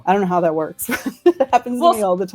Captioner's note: laughs